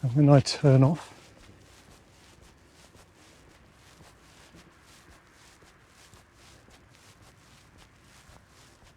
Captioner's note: sound of walking